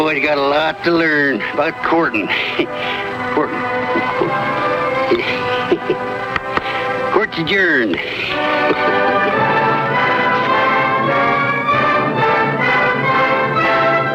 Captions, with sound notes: That boy's got a lot to learn about courting, courting. (gavel tapping) Court's adjourned. (chuckles) (energetic orchestral music)